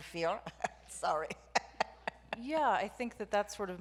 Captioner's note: laughs